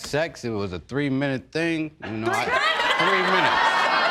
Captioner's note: audience laughing